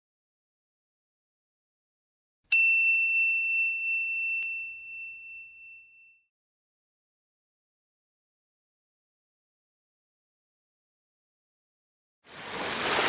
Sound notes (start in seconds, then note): 2.5 ding; 12.2 waves rolling